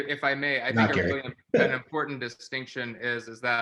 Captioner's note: participant chuckles